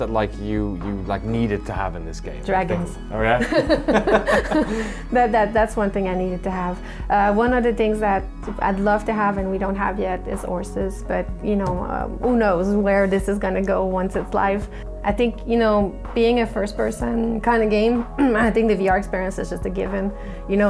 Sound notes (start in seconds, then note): 3.4 laughs